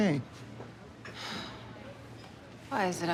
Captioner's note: sighs